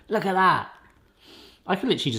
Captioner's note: sniffing